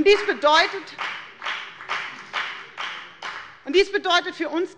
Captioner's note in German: Beifall bei der FDP